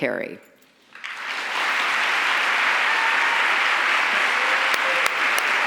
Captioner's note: audience applauds and cheers